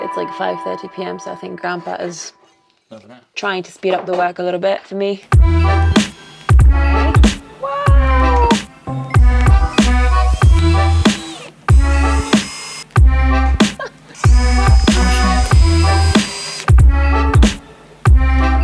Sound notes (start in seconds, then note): 5.3 upbeat music; 9.1 drill whirring; 12.1 upbeat music; 14.1 drill whirring